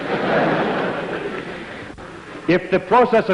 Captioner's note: laughter